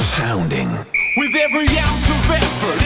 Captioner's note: whistle blowing